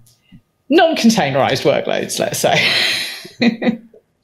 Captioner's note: chuckles